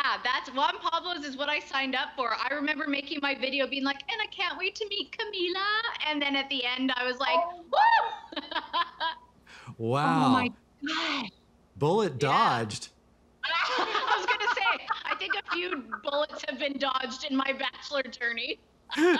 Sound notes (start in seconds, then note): 9.6 laughs; 13.5 both laugh